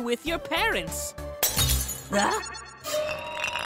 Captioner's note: glass shatter